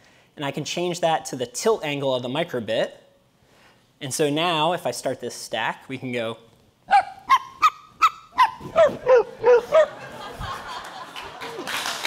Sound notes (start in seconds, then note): 6.9 high pitch dog barking; 6.9 dog barking; 10.8 applause; 11.2 laughing